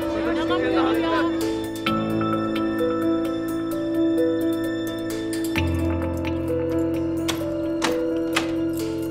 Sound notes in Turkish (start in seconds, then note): 5.6 Kapı açıldı